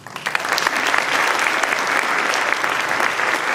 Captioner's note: applause